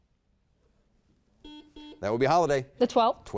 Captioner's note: buzzer beeps